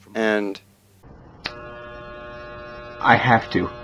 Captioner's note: electric shaver